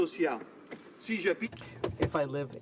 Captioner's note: speaking French